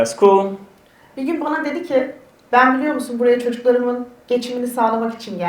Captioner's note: speaks in Turkish